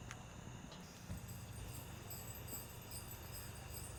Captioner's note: none